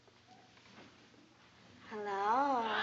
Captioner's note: seductive tone